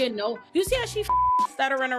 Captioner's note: beep